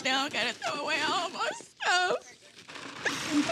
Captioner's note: crying